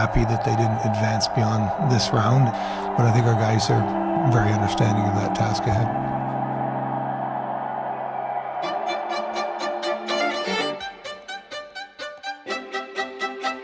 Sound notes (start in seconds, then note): 6.5 crowd cheers; 8.6 upbeat classical music